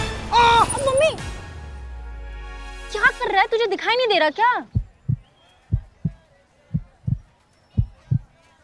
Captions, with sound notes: - Ah! - Mummy! What are you doing? Can't you see? [heartbeat fastening]